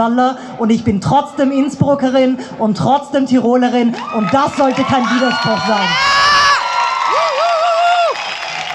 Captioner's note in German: Applaus